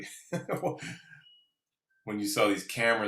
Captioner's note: laughs